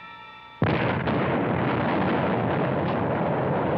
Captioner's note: explosion